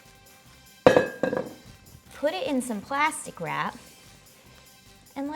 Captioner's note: bowl banging